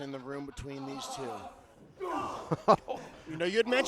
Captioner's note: wrestlers groan